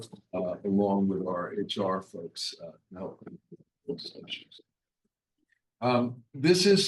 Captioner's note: faintly speaking